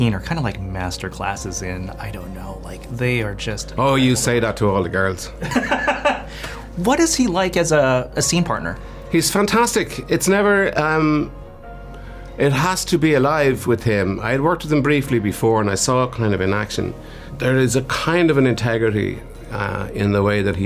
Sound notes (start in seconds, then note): 5.4 laughs